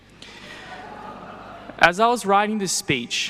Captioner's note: people laughing